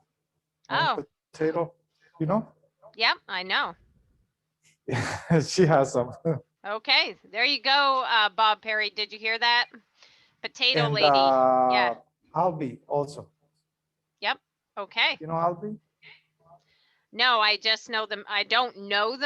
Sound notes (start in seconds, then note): 4.9 laughs